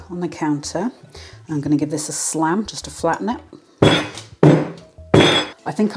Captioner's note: bang bang bang